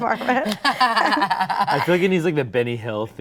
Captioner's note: all laughing